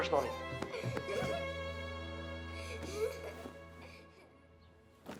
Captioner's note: Suzanne giggles